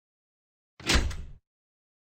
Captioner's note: clank